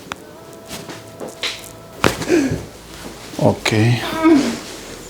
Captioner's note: the sound of bones